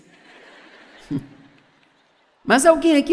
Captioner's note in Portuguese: audiência ri